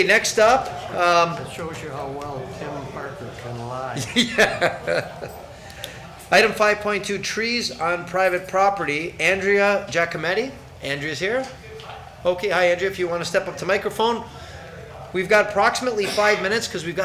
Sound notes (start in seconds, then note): 3.8 laughs